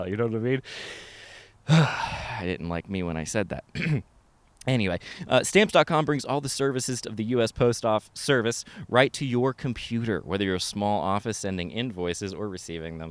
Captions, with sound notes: you know what I mean? (sighs deeply) I didn't like me when I said that. (clears throat) Anyway, stamps.com brings the services of the US Postal Service right to your computer. Whether you're a small office sending invoices,